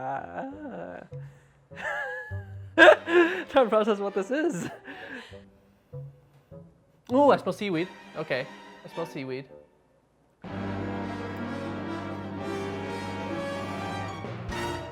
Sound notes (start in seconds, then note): 1.7 laughs; 10.4 dramatic orchestral music